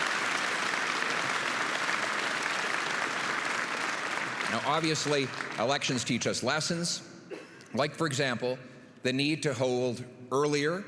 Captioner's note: applause